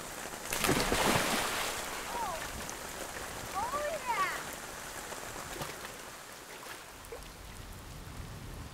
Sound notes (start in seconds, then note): 0.0 water splashing; 4.7 rain pattering